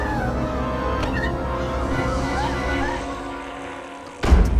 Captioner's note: dramatic music; crying